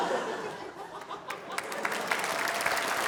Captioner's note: laughter